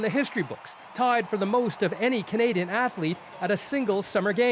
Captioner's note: cheers and Applause